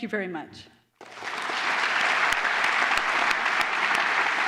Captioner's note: applause